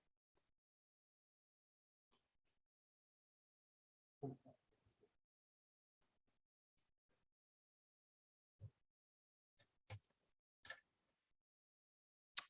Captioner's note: silence